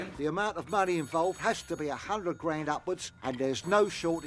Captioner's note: none